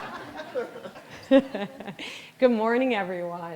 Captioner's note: all laughing